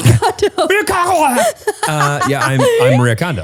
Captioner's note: laughs; speaks gibberish